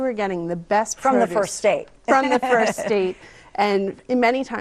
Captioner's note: laughs